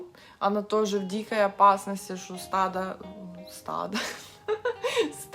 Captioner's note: laughter